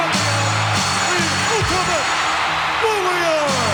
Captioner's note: audience cheering